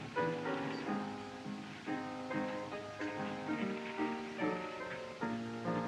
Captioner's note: none